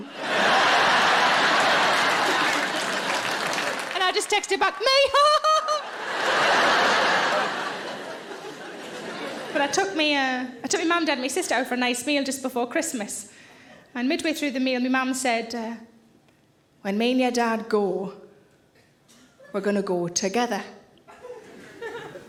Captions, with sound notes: (audience laughing and applauding) And I just texted back, me! (laughing) But I took my mam, dad and my sister out for a nice meal just before Christmas, and midway through the meal, my mam said, "When me and your dad go, we're gonna go together."